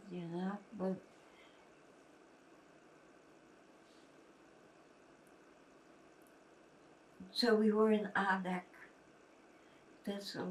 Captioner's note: pauses 6 seconds